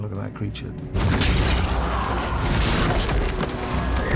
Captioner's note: crowd gasping